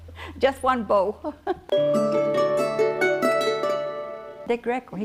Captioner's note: laughter